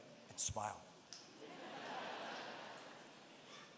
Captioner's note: laughter